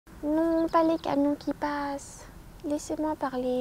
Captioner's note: little voice